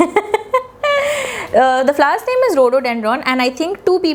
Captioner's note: laughs awkwardly